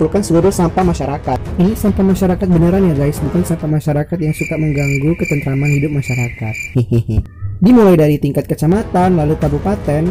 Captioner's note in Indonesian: laughing